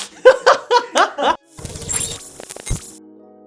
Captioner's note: laugh; laughter; glitching effects; gentle techno